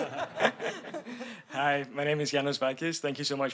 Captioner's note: everyone laughing